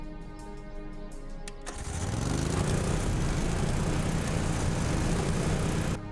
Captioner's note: motor starts